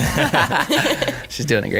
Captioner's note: laughing